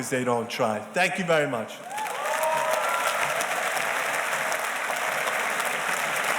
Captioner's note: audience applauding